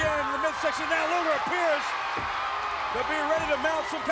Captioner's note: crowd cheering